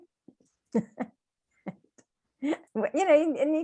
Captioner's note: laughing